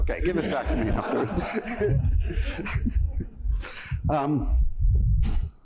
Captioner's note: laughter